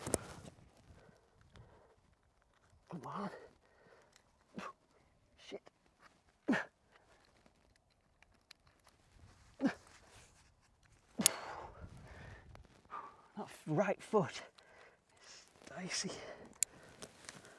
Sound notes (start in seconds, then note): 11.2 breathing heavily